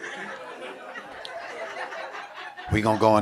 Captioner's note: audience laughing